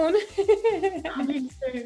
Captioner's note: laughs